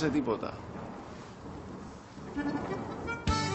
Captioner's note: thunderclap